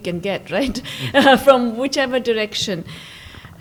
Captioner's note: laughs